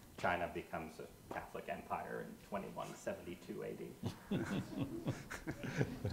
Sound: audience laughs

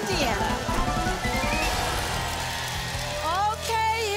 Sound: audience applause

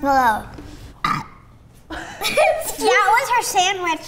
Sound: burps; laughs

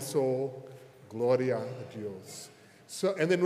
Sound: minister speaks Spanish

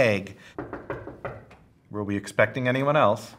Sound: door knocking

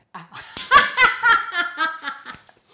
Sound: laughing

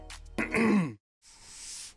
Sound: clear throat sound effect

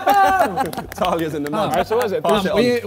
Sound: Ethan yells

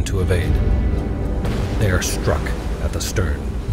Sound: torpedo exploding

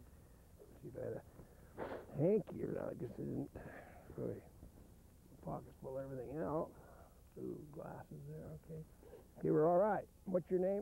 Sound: blows nose

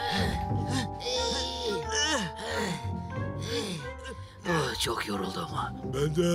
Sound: tired / effort noises

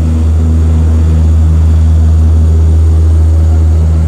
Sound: engine roaring

